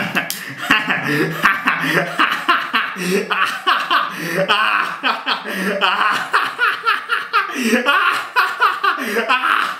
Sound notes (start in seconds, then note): 0.6 wicked laugh; 5.2 wicked laugh intensifies